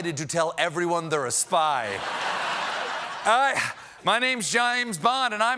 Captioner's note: laughter